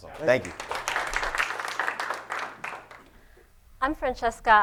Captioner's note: applause